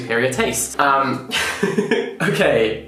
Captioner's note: laughing